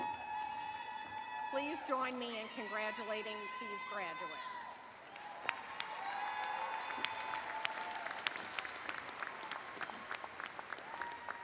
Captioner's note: cheers and applause